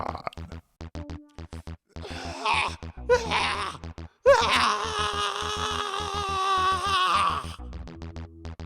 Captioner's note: screams in torture